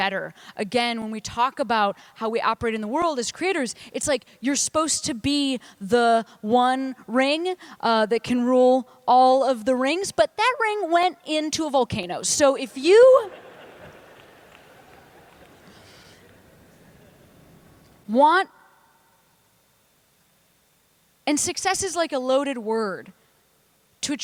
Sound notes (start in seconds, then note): 11.5 laughter